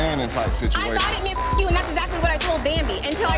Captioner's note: beep